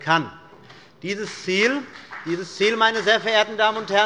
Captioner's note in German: Beifall bei Abgeordneten des BÜNDNISSES 90/DIE GRÜNEN